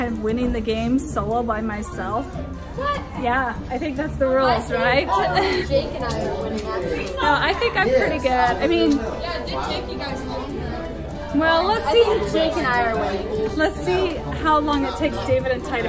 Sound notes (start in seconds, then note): 4.9 laughing